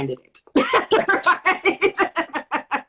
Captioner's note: laughter